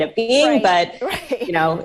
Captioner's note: chuckles